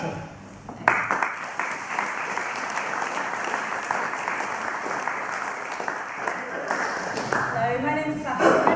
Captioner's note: clapping